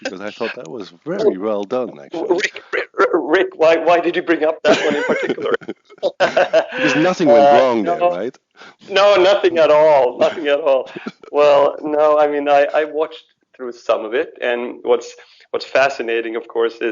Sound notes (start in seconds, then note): 4.6 laughs